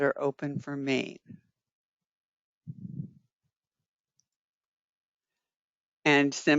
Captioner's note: 5 seconds pause